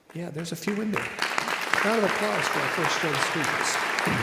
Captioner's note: audience applauding